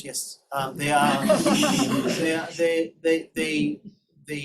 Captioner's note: laughter